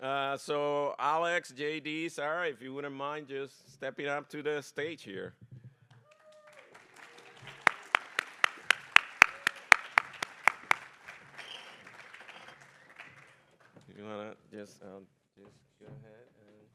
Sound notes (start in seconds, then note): 6.0 applause